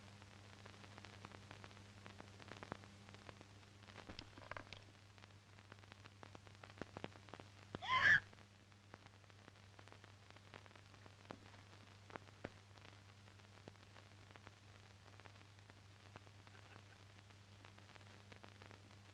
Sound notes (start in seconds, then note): 7.8 screaming